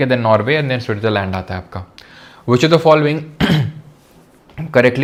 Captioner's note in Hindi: गला साफ़ करने की आवाज़